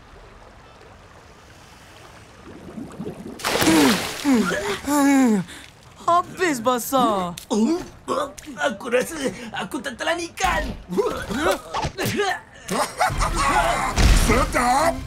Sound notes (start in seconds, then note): 3.9 water splashing; 12.6 RocketFish laughing